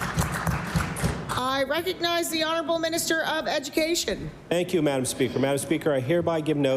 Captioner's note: applause